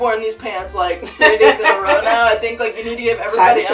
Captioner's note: laughs